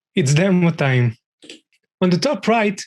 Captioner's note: mouse clicking